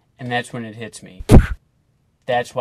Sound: punching noise

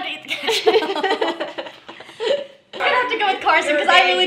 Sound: laughing

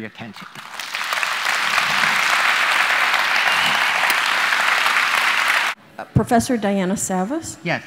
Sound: applause

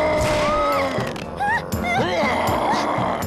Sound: roaring; growling

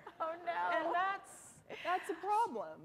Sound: laughter

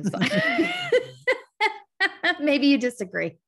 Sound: both laugh

